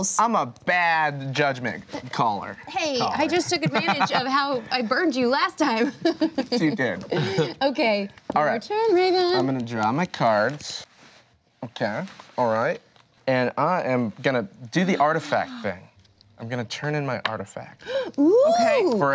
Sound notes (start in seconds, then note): 5.8 laughs